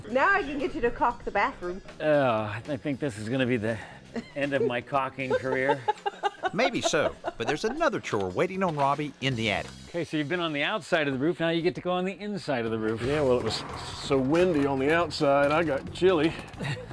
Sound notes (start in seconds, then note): 5.9 laughs